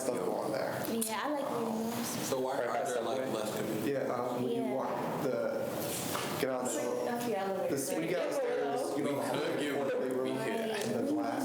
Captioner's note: students chatter drowns out speaker